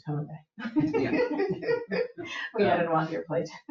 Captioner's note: people chuckle